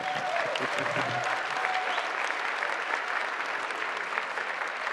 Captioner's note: applause